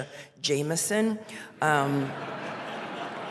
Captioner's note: laughter